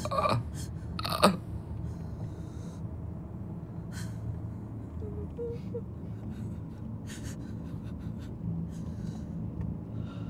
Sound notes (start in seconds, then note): 5.1 child sobbing softly